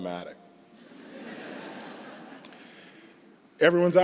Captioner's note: laughter